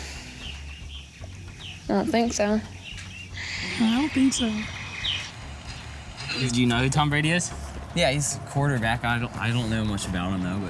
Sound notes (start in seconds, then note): 3.4 in high voice